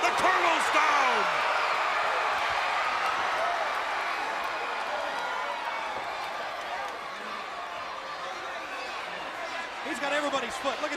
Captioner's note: crowd cheering